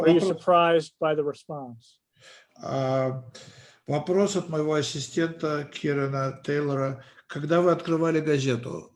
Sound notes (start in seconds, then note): 3.9 translator speaking Russian language